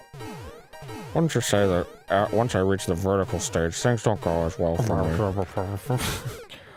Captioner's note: muttering